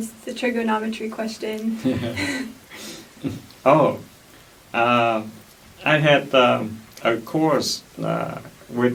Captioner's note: laughs